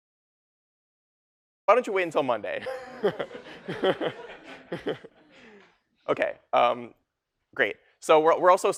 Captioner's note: 웃음